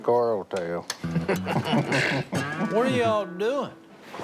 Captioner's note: men laugh